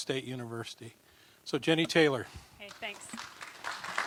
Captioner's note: applause